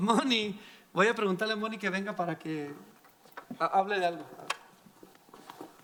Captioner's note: speaking in foreign language